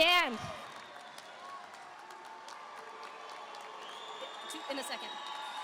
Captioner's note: audience applauding; audience cheering